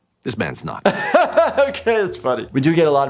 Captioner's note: laughs